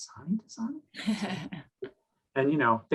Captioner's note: chuckling